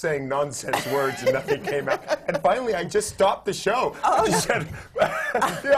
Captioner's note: laughs; laughs